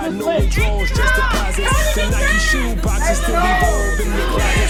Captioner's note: crowd chanting